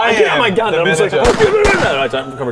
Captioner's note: bang bang